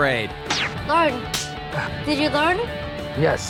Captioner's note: slap